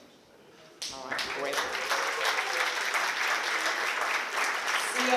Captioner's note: applause